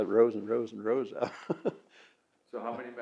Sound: laughs

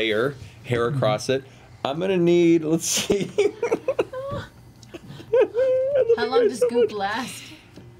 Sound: laughs

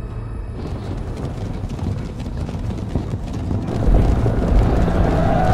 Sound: horse hoofs pounding

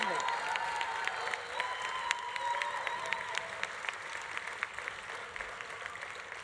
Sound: audience cheering continues; audience applause continues

